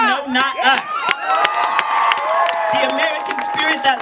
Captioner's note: cheering